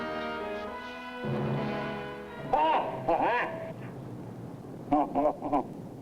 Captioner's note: he laughs